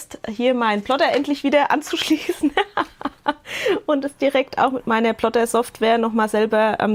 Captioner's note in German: gelächter